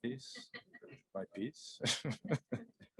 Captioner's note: chuckles; reporters chuckling